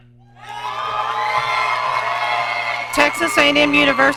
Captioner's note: audience cheering